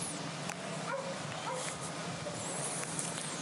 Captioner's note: dog barking